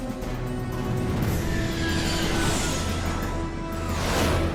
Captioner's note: engines whining